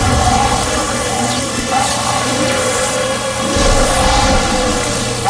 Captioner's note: screaming